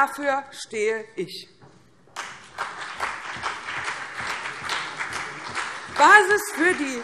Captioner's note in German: Beifall CDU und BÜNDNIS 90/DIE GRÜNEN